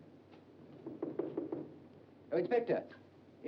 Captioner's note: knocking on door